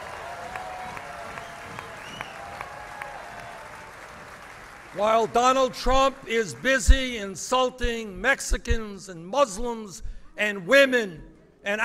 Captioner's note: applause